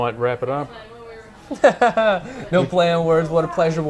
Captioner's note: laughing